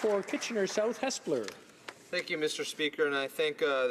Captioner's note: applause